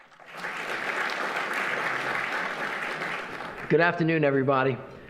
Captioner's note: audience applauding